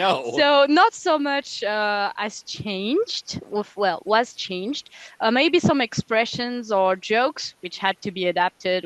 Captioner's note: translating from French